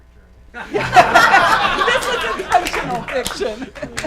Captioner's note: laughs